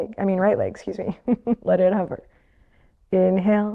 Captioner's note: chuckles